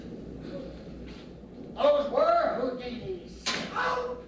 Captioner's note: crossbow shot